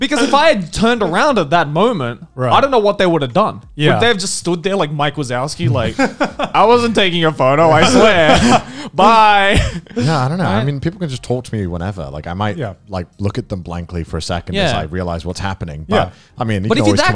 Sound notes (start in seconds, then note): 0.1 laughs; 7.8 laughs